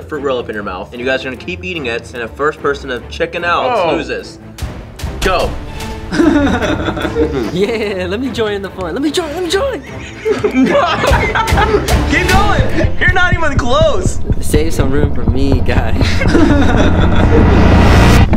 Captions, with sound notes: fruit roll up in your mouth, and you guys are gonna keep eating it and the first person that chicken out loses. Go. Yeah, let me join the fun. Let me join. Let me join. (laughing) Keep going. - You’re not even close. Save some room for me, guy.